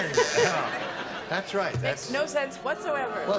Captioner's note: buzzer